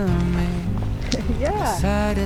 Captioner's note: chuckles